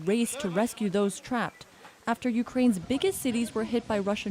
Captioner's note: speaking alternate language